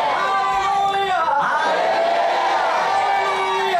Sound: audience & translator respond shouting

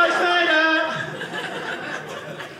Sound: audience laughing

